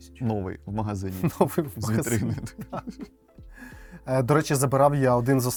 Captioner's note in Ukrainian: сміх